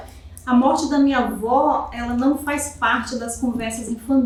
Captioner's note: speaking portuguese